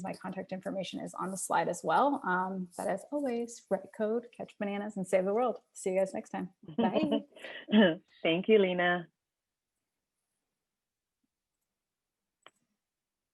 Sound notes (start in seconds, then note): 6.7 laughing